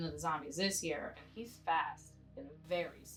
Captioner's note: on phone